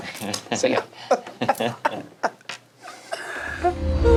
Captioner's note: laughing; gentle music